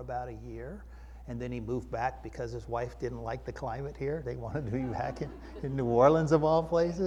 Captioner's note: chuckling